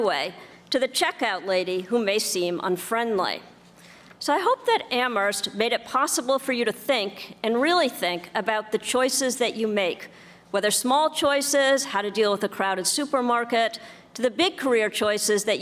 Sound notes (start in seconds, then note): none